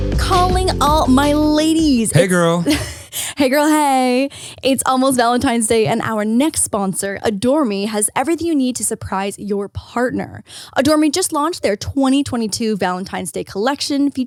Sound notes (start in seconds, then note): 1.8 laughs